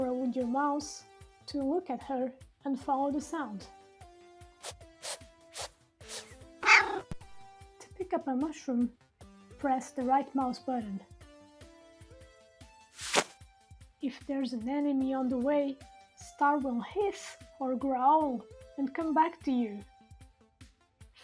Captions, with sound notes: Rotate the camera with your mouse to look at her, and follow the sound. [Star sniffs three times] [Star meows] To pick up a mushroom press the right mouse button. [Pick up mushroom sound] If there's an enemy in the way, Star will hiss or growl and come back to you.